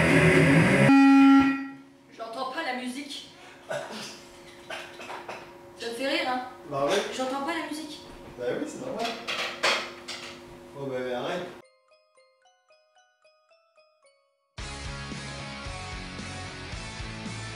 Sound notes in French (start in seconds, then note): 4.5 rigole